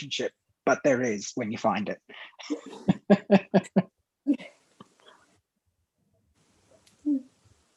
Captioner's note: laughter